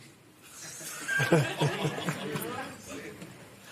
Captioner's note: laughter